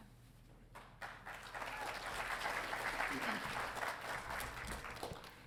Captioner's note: audience applauding